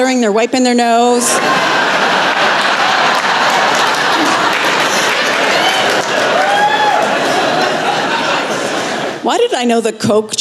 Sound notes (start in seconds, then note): 1.5 laughter